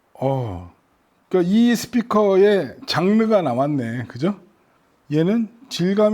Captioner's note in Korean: 감탄